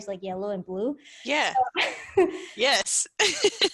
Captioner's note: laughs